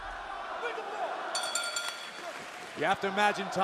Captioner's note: bell ringing